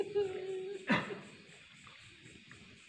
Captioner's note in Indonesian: menangis